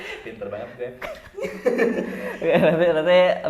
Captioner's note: laughing